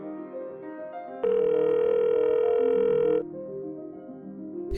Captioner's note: phone ringing